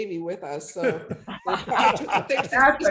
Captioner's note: all laughing